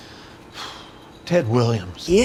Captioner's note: sighs